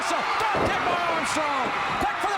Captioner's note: crowd cheering